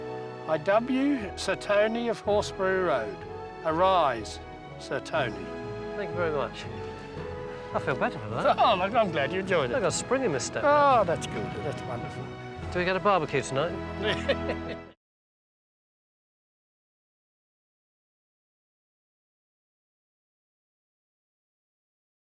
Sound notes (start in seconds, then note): 14.0 laughs